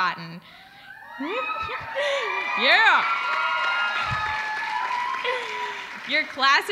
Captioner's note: applause